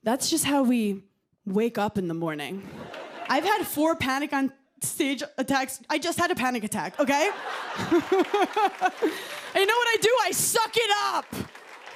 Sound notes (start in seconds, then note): 6.9 laughter